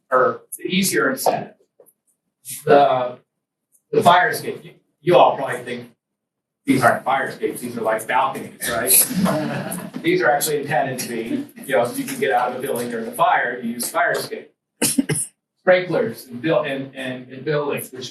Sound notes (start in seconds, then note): 8.4 students laugh